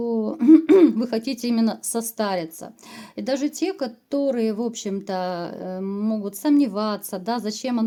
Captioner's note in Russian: откашливается